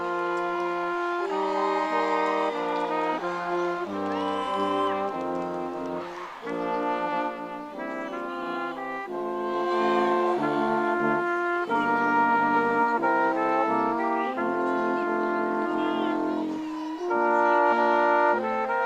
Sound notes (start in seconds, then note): 5.1 audience cheering